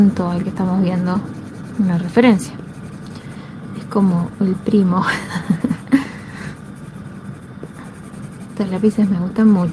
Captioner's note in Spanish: risas